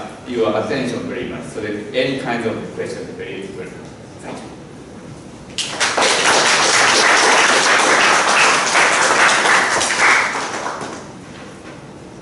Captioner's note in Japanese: 拍手